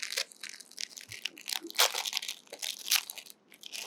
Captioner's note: paper tearing